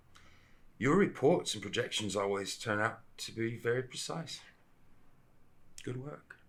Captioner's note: none